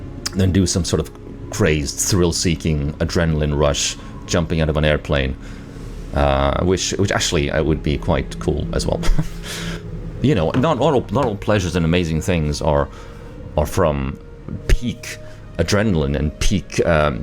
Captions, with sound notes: Than do some sort of crazed, thrill-seeking adrenaline rush. Jumping out of an airplane. Ehm... which, which actually would be quite cool. As well. *laughs* You know, not all pleasures and amazing things are, are from peak adrenaline and peak ehm...